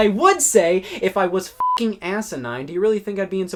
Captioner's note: beep